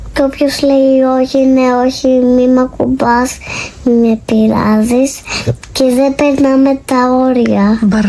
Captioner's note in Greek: χαχανίζει